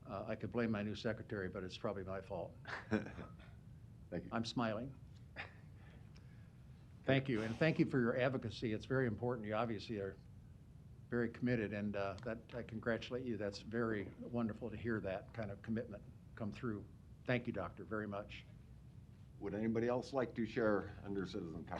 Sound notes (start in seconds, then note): 2.7 laughs